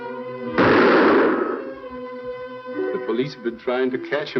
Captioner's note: gunshot